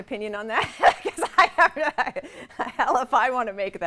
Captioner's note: laugh